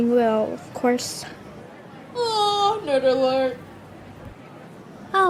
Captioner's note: yawns loudly